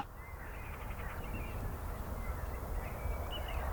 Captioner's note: birdsong